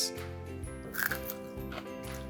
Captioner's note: crunching